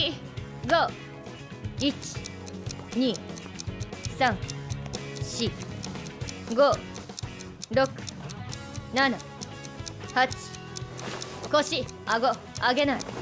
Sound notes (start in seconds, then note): none